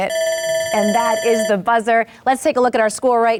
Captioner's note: buzzer rings